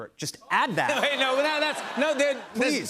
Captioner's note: laughter